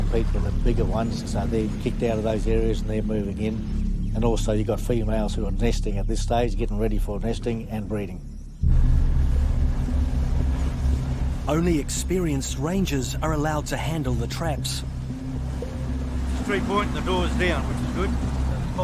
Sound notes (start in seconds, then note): 9.9 engine roars; 9.9 gentle dramatic music